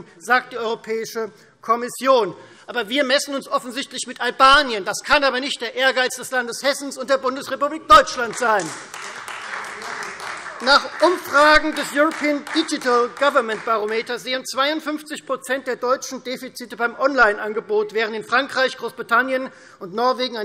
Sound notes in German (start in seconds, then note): 8.2 Beifall Freie Demokraten